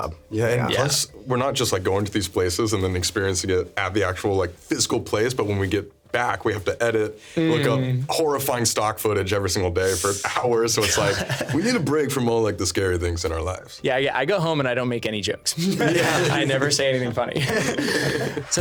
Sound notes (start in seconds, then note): 10.8 laughing; 15.6 laughing